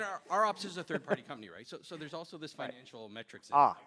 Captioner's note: laughter